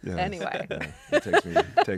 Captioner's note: laughs